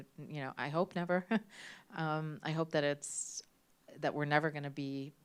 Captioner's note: chuckles